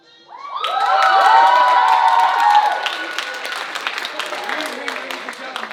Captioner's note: audience screaming and applauding